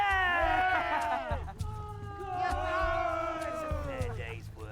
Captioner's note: men yell